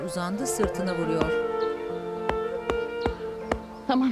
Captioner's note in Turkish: Vurma sesi